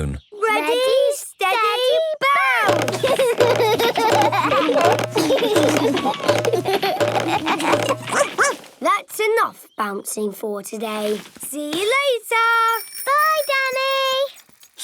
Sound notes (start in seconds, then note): 3.1 all laugh; 8.1 barks